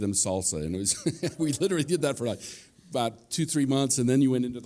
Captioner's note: laughs